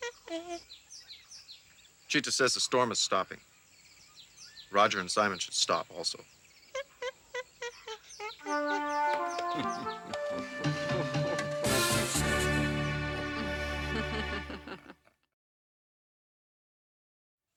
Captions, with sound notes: - Cheetah says the storm is stopping. Roger and Simon should stop also. (laughing)